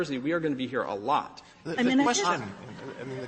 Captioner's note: laughter